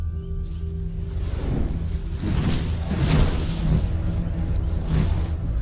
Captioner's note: energy whooshing